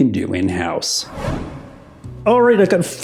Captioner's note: abrupt whoosh